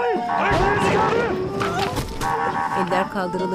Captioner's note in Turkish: Düşme sesi